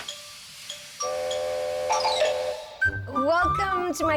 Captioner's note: horn blowing